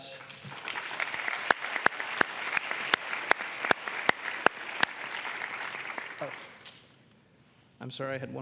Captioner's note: applause